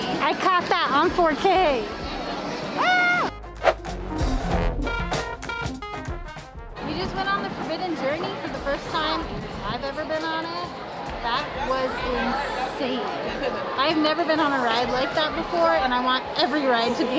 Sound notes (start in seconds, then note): 2.8 screams; 3.5 swipe